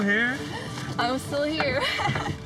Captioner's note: laughing